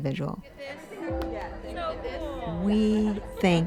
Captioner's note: crowd chatter